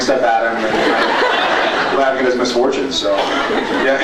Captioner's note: laughs